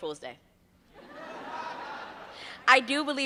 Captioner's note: laughter